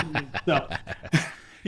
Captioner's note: laughing